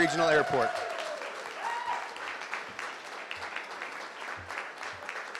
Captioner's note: crowd cheering and clapping